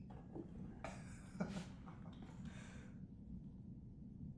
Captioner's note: laughs